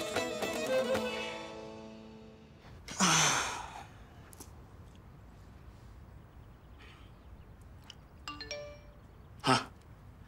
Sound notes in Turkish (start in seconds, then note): 8.0 Mesaj Sesi